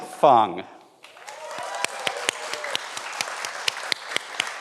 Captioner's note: everyone applauds